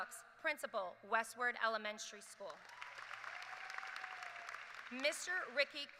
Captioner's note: applause